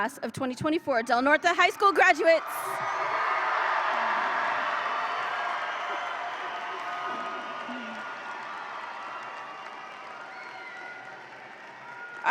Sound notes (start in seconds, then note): 2.8 audience applauds and cheers